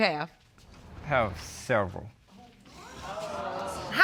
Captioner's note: audience exclaims